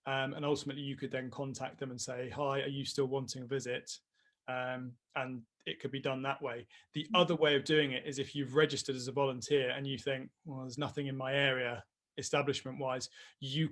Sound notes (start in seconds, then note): none